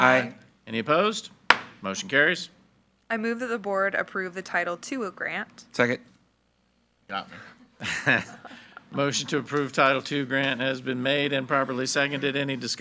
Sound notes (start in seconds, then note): 1.5 gavel bangs; 7.7 group laughs